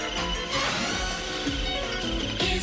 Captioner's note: swoosh